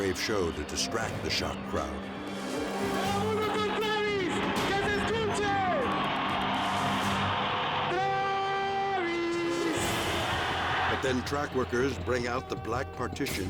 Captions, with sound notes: to distract the shocked crowd. (announcer shouting in Spanish) (crowd cheering) But then track workers bring out the black partitions